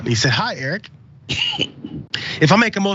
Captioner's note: cough